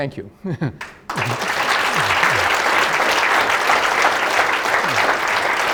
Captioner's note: audience applauds loudly